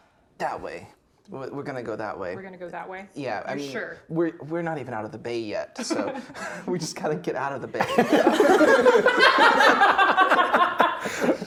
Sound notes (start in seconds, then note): 5.8 both laughing; 7.8 players laughing